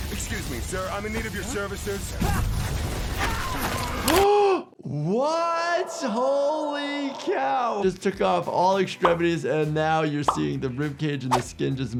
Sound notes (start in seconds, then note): 4.6 gasps